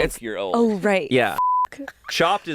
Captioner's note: beep